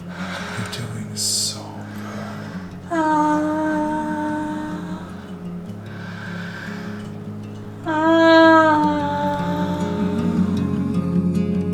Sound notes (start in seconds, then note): 3.6 moaning softly; 9.0 soft music